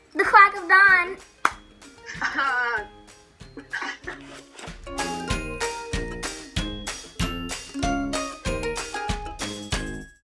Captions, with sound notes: The quack of dawn! (claps) (laughs) (gentle music)